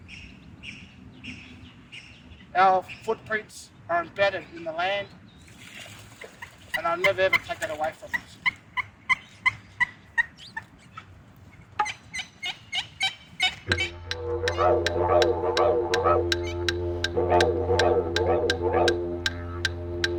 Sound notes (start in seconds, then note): 0.6 birds chirping; 5.5 water splashes; 8.4 bird chirping; 13.6 clap sticks, Didgeridoo